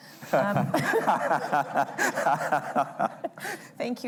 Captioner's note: laughter